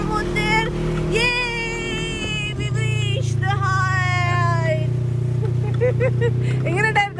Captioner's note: laughs